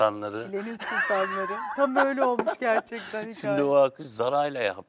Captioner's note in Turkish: kahkaha